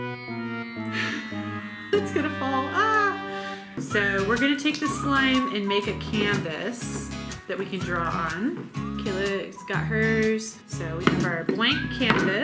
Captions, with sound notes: (sad music) (laughs) That's gonna fall. So we're gonna take the slime and make a canvas that we can draw on. Kayla's got hers, so we have our blank canvas.